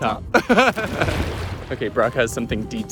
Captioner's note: laughing